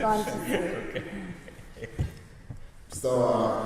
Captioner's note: chuckles